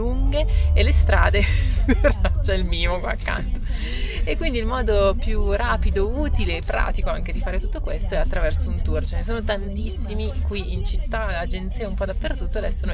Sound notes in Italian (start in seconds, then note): 1.4 risate